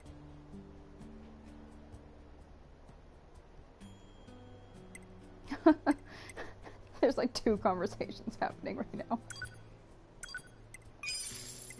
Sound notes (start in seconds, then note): 5.3 laughs